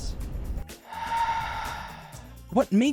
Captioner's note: sigh of disbelief